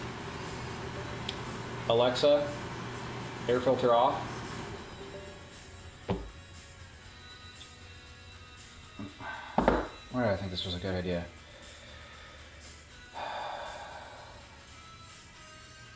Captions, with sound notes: Alexa, air filter off. (sighs) Why'd I think this was a good idea? (sighs)